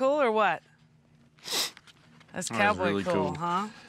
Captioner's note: sniffs